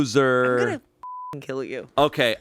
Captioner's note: beep